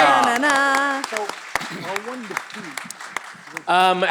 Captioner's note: all clapping